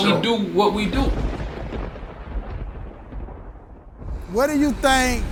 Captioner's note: thunder crashing